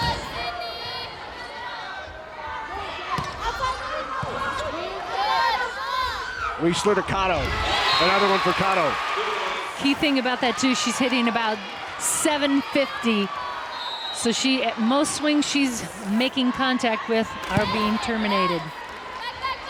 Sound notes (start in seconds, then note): 0.3 players yelling; 8.3 crowd cheering; 19.5 crowd and players cheering